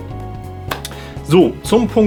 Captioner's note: clap